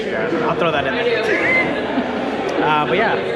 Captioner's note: laughs